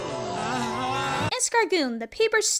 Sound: Escargoon whimpers

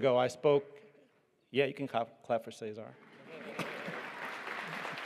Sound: applause

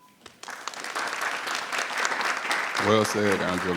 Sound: people applauding

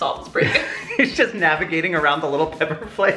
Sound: laughs

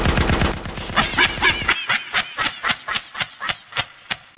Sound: evil laughter

